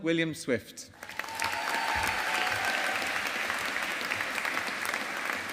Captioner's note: audience applauding